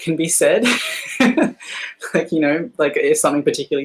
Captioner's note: laughing